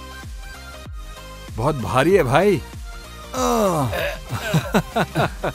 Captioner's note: laughs